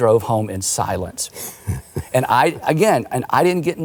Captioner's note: laughing